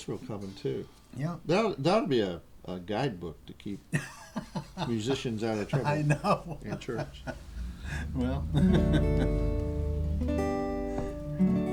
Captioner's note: laughter; guitar playing